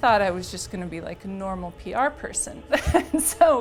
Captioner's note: laughs